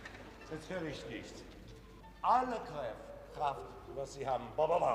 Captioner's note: orchestra stopping; speaking foreign language